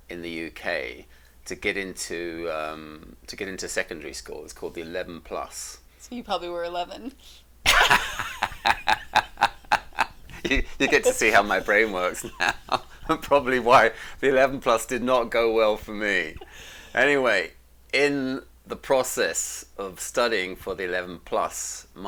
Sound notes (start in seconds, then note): 7.6 both laughing